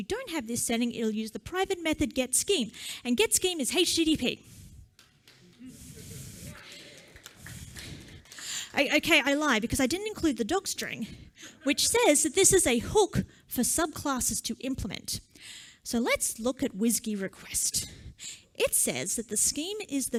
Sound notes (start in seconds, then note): 6.5 applause